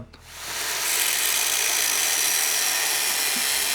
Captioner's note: tools whirring